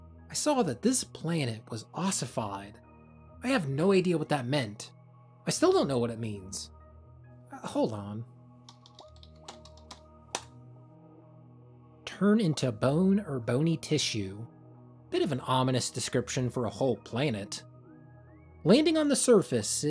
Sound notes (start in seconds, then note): 8.7 keyboard clacking